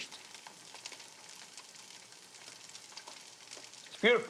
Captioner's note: sizzling